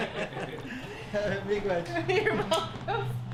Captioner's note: laughter